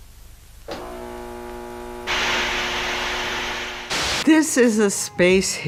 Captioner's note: machine buzzing